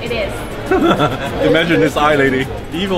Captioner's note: laughing